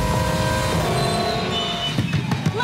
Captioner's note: knocks